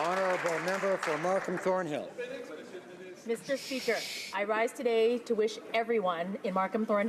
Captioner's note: applause